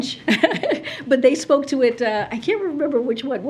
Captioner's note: laughs